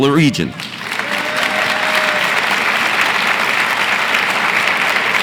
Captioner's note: audience applauds and cheers